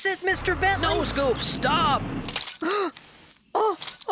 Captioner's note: crunch!